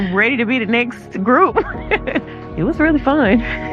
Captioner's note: laughs